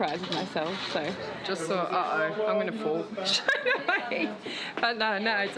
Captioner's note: laughs